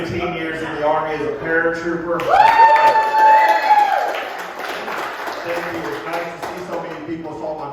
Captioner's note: crowd Claps